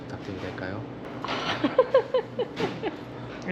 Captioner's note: Laughs